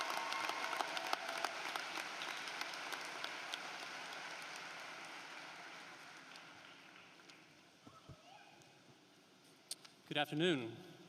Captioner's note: cheering and applause